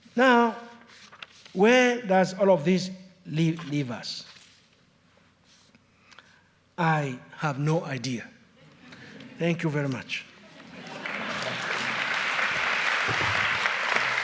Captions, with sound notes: Now, where does all of this leave us? I have no idea. (audience chuckles) Thank you very much. (audience applauds)